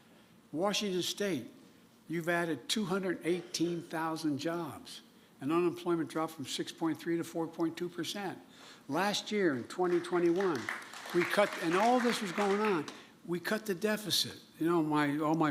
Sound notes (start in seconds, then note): 9.8 applause